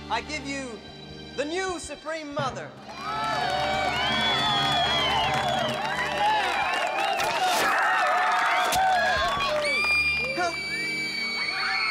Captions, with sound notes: I give you the new Supreme Mother! (Chosen cheering and applauding) (Chosen screaming) Help!